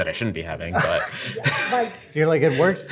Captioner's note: laughs